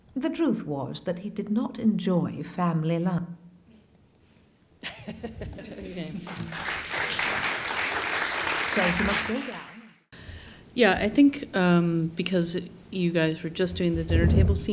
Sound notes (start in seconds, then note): 6.2 applause